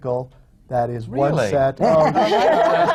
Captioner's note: laughter